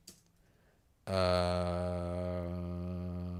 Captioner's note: typing